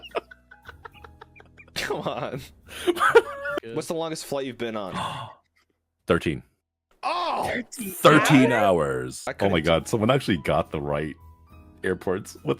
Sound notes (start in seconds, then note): 7.2 disgust